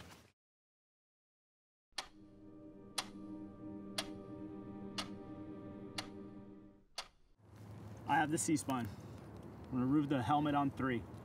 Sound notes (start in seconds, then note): 2.9 clock ticking